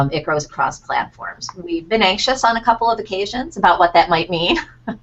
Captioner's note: laughter